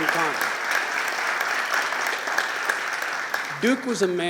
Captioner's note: applause